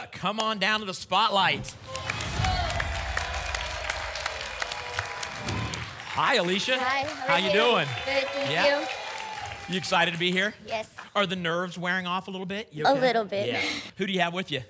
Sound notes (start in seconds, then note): 1.5 whoosh; 1.7 applause and cheering